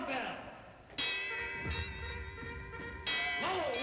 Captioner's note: bells tolling